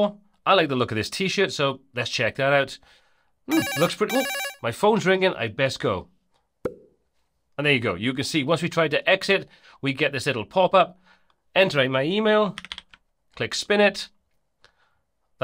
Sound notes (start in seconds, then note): 3.5 phone rings